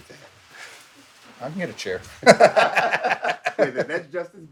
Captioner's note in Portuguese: risos